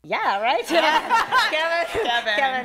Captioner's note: laughter